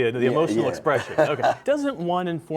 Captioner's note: laughter